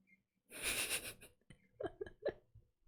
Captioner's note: laughs